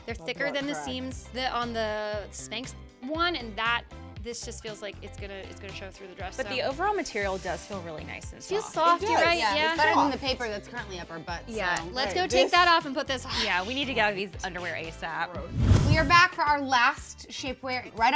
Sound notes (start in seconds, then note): 15.4 air whooshing